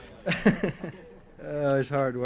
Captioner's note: laughs